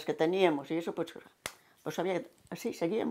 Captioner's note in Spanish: Palmada